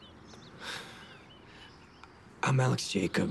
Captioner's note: sighs